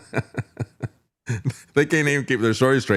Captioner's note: laughing